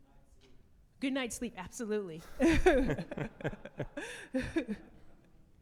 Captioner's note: laughs